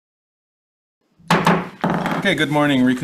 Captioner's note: loud thump